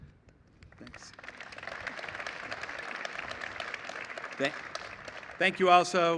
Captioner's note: applause